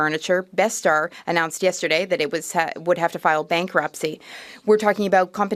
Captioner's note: speaking French